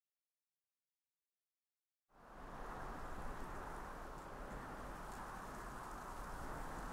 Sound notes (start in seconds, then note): 2.1 wind whistling softly